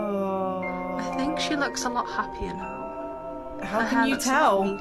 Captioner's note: woman's Voice